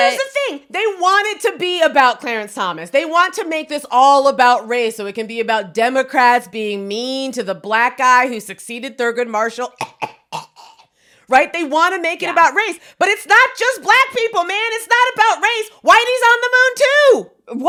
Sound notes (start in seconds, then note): 9.7 coughing